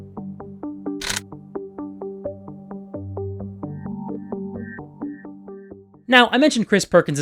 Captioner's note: gun cocks